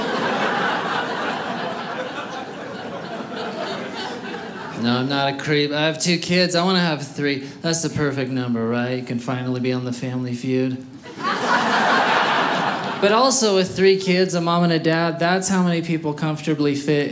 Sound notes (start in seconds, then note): 0.0 audience laughing; 11.0 audience laughing